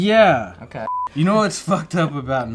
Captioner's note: beeps